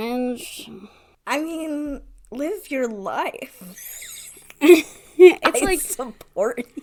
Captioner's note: laughs